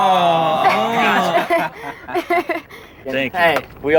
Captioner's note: awing; laughing